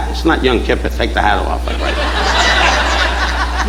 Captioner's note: audience laughing